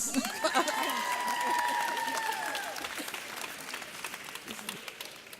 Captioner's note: audience cheers